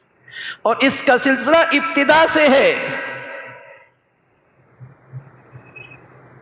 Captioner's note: sigh